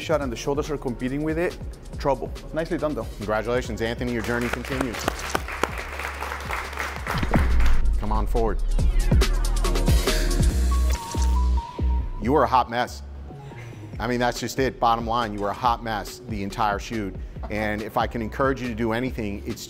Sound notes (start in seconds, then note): 4.2 clapping; 9.4 upbeat music